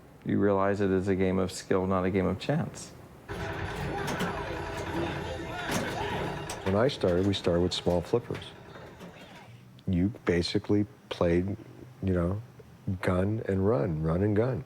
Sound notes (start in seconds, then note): 3.3 modern pinball sounds